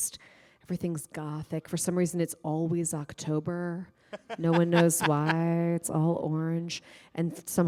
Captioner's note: laughter